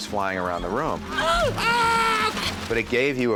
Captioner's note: yells